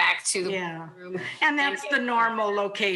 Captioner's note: faintly speaking